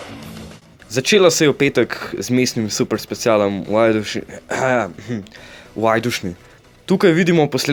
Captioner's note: said in a local accent